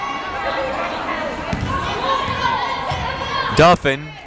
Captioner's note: yelling